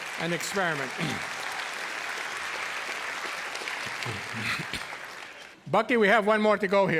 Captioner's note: cheers and applause